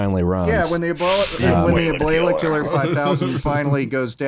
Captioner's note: laughs; inhales sharply; horror movie voice